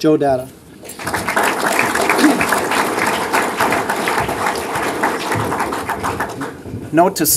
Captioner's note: applause